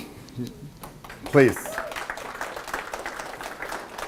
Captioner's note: applause